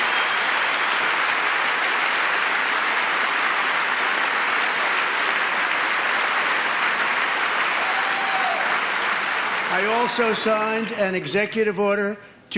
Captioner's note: applause